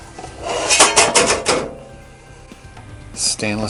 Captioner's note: metal clanking